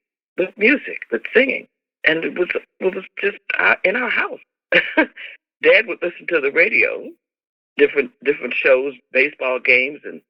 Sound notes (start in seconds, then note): 4.7 laughter